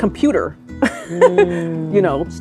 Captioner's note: laughs